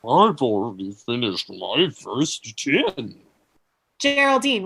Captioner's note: mouth full/munching